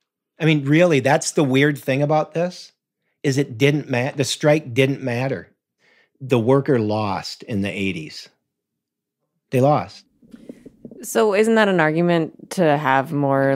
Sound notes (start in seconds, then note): none